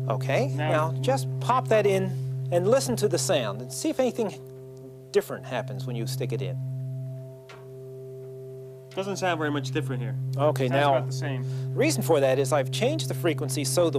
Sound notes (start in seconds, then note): 7.2 continued low humming